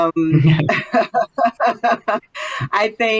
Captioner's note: laughter